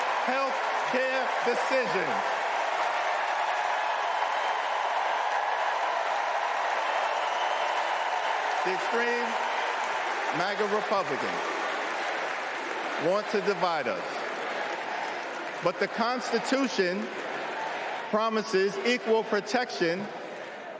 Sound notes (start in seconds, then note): 5.8 cheering